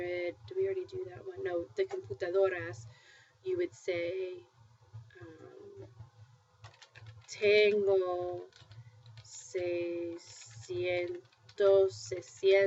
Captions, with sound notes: Did we already do that one? No, the [spanish] you would say [speaking spanish].